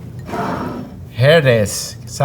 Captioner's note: jar sliding